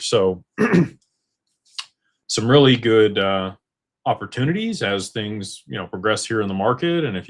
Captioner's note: clears throat